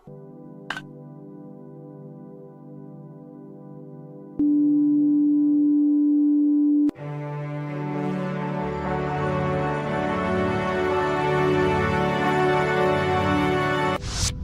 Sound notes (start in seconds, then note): 4.0 booooooop; 6.9 triumphant music